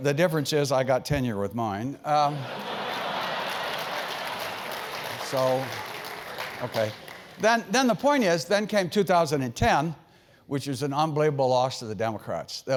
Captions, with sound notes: The difference is I got tenure with mine. >> [LAUGH] [APPLAUSE] >> The point is then came 2010, which was an unbelievable loss to the Democrats.